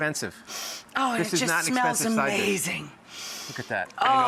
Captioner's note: sniffing